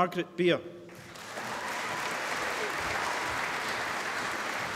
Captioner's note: applause